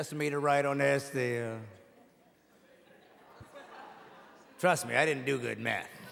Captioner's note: audience laughing